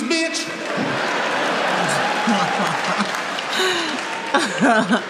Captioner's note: audience laughing